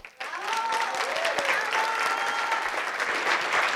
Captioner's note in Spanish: Aplausos